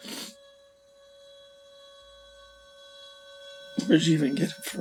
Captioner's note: Michael sniffling